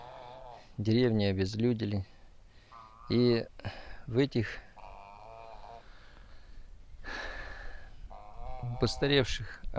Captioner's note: sighs